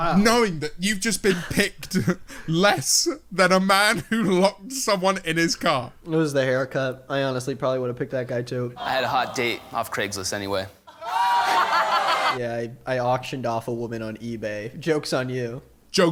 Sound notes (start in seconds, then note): 11.1 laughs